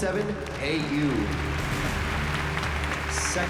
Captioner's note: applause